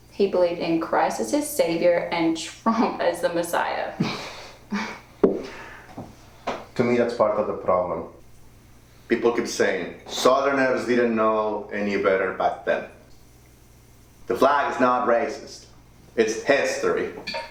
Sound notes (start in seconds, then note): 4.6 Annabelle chuckling; 4.7 Manny laughing